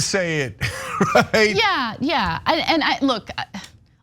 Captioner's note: laugh